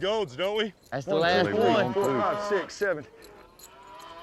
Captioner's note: counting